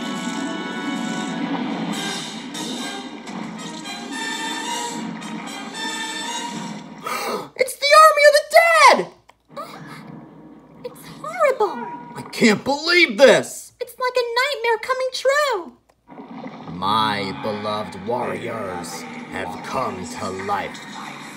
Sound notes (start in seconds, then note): 7.0 gasps; 9.4 gasps